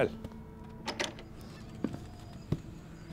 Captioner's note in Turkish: Kapı açılma sesleri; Kapı gıcırdama sesleri